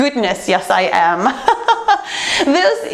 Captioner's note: laughs